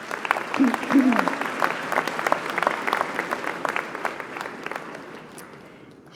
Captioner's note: applause